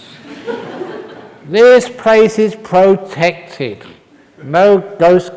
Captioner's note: laughter